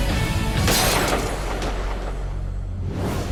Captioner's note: gunshot